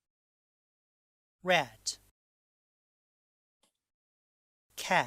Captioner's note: click